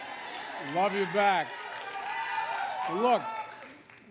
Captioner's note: applause